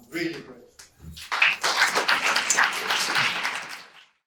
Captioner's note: audience applause